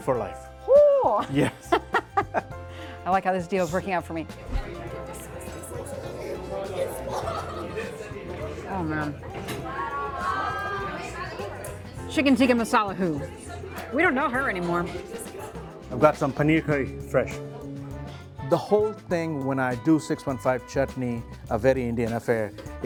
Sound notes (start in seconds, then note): 1.0 laughing; 4.3 diners chatting